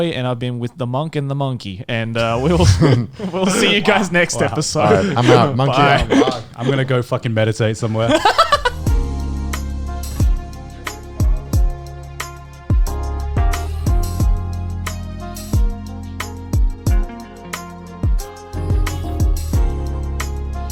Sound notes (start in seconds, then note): 8.3 laughing; 8.3 soft music